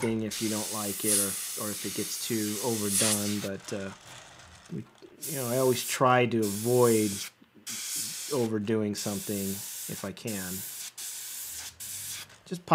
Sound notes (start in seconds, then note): 3.4 rattling; 7.5 hissing; 10.3 hissing